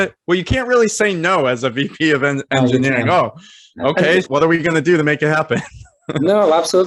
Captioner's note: laughing